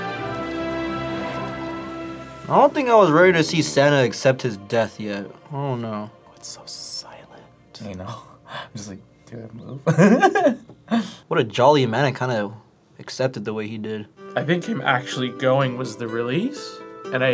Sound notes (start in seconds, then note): 6.7 whispers; 9.8 laughs